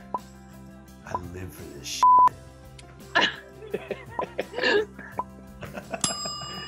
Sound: beep

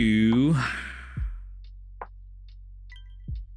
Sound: sighs

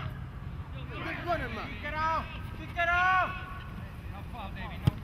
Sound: players shouting

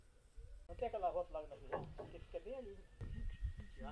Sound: person speaking Portuguese

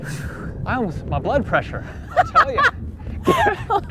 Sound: laughing

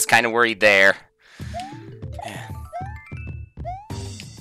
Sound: breathing

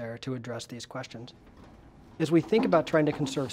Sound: none

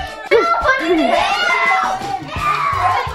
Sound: girls screaming; screaming

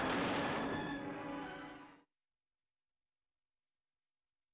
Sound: plane explodes

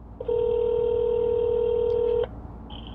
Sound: phone ringing

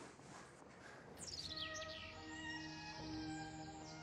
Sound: birds chirping; gentle string music

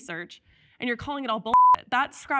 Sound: beep

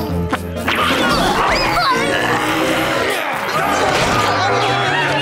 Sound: gagging

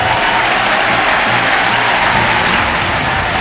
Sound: applause

